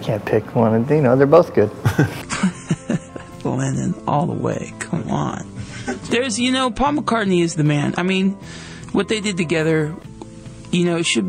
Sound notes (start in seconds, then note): 1.8 laughs